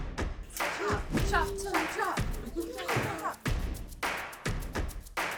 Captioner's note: exciting music; crowd chatter